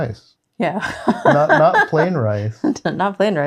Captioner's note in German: lacht